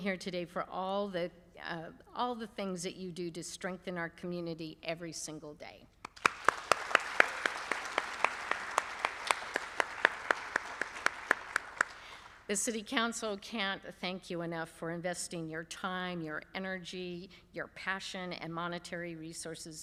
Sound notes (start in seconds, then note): 10.8 applause